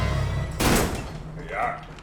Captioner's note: door bangs